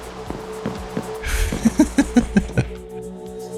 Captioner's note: laughs